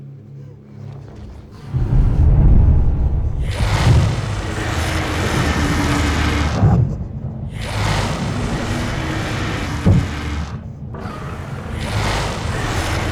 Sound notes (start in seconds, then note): 3.9 dragons growl; 3.9 dragons roar